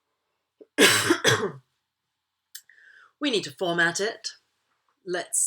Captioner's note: cough